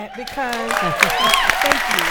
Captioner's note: applause